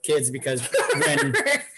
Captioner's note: laughing